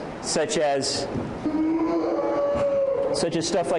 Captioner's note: distant shouting